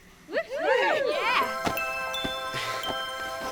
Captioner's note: twinkly music; whoops and cheers